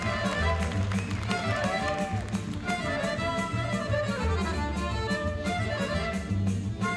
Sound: audience applauding and cheering

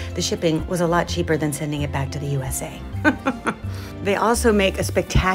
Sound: laughs

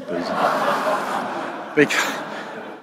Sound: laughing

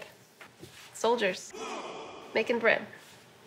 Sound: grunt

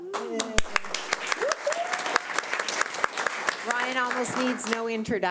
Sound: audience applauding

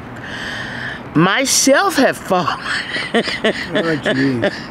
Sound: laughing

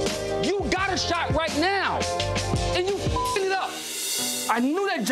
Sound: beeps

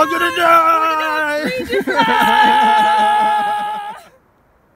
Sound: laughter

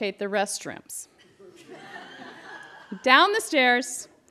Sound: laughter

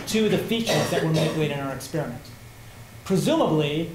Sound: coughing

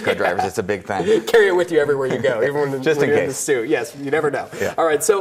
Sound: laughs

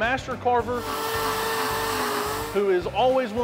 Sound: tool whirring

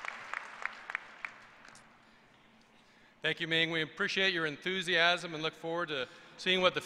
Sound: applause

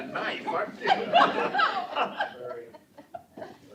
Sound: laughter

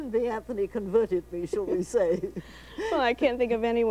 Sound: chuckles

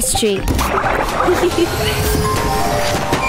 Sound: bubbling; Sema giggles; whirring and popping

